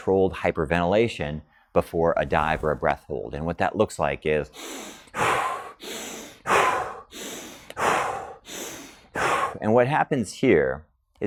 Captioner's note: breathes in and out repetitively